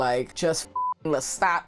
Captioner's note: beep